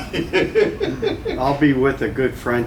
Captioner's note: laughter